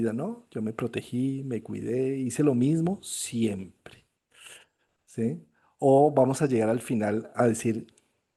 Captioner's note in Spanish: resoplido